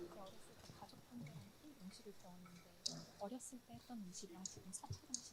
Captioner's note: both speaking in foreign language